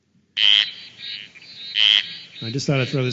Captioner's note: sound of frog calls